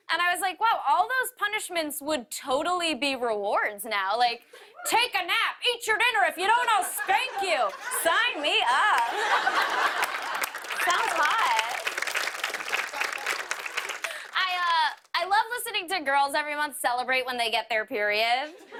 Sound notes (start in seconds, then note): 11.4 applause